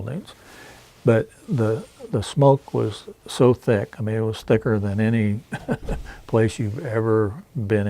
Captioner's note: chuckles